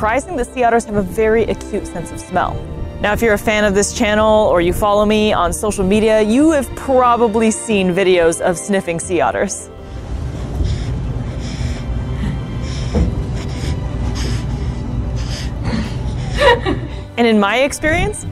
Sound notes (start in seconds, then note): 9.8 background music; 9.8 sea otter snuffling noise; 15.6 laughing in background; 15.6 background music